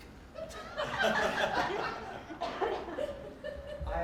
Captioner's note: laughing